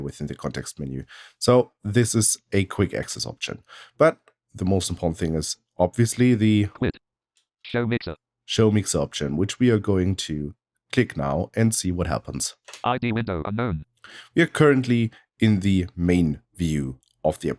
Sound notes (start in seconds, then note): 7.0 automated voice; 12.5 automated voice